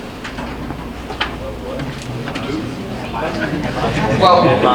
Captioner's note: audience murmuring; audience laughing